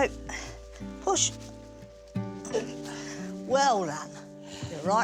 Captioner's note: groans